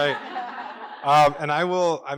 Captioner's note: laughter